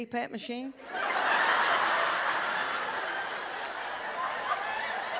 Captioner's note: audience laughs